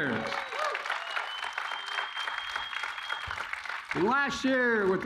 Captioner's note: applause